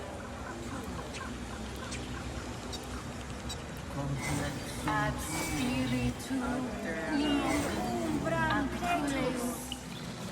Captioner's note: Grove ritual chatter, indistinct